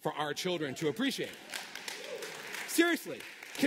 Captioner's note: applause